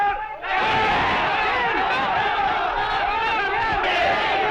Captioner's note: non-english speech; non-english shouting